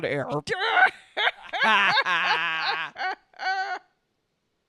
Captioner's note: Luke and Leia cackle obnoxiously